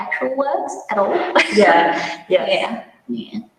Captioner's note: laughs